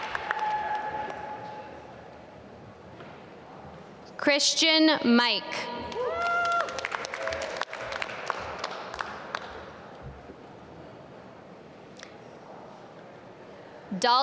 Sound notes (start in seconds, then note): 5.9 applause